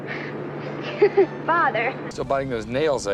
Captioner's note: laughs